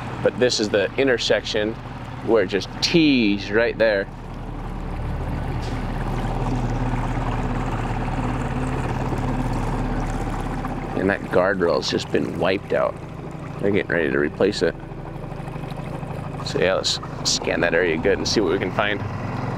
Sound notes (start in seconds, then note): 5.5 motor rustling continuing; 5.5 soft music continuing